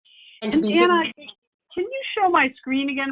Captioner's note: speaks faintly